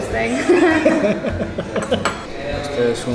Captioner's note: laughs